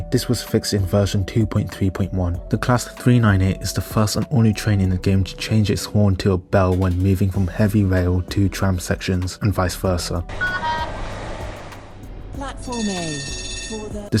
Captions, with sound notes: This was fixed in version 2.3.1. The class 398 is the first and only train in the game to change its horn to a bell when moving from the heavy rail to the tram sections, and vice versa. [Tram horn] [Tram bell]